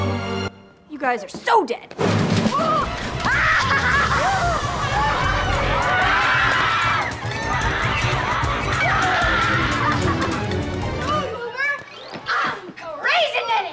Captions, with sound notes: You guys are so dead. [laughing] [screaming] Come on, goober. I'm crazy Ned.